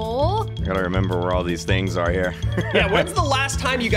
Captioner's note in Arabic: يضحك